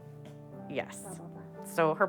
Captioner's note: whispers